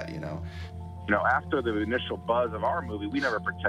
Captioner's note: Ed on radio